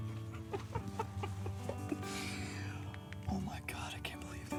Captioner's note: Louie laughs